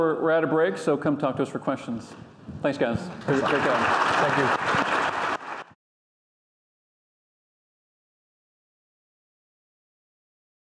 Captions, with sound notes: We're at break, so come talk to us for questions. Thanks, guys. - Thank you. (audience applauding)